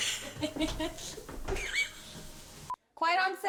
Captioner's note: laughs